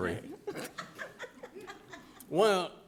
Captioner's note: directors laughing